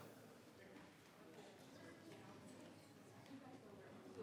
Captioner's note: people chattering